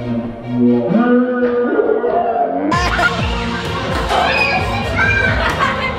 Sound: yelling; slowed down voicing; yelling

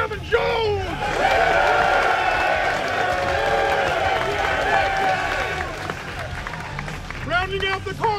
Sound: cheers

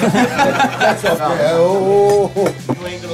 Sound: laughs

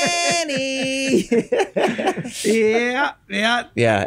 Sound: group chuckles

